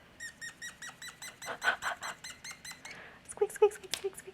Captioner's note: pen squeaks